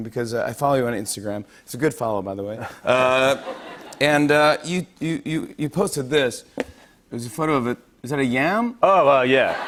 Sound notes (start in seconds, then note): 2.5 light laughter; 9.4 laughter